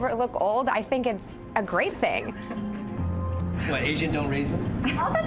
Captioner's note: man laughing